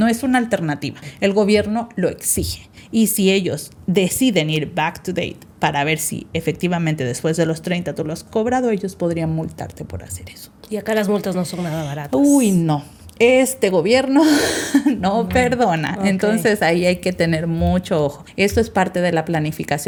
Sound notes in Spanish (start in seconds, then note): 14.6 risas